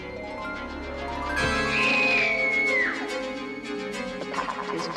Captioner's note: girl screams